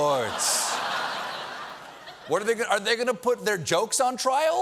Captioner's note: laughter